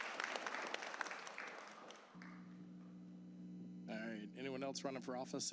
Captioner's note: applause